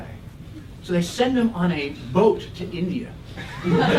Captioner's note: laugh